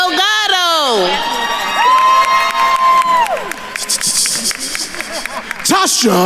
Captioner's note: attendees cheering and applauding